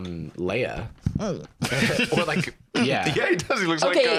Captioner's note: audibly pouts